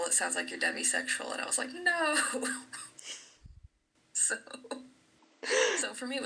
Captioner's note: laughs; laughing